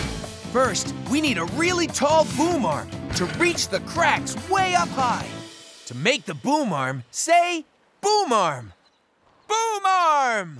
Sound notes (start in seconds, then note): none